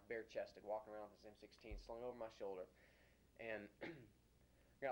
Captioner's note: clears throat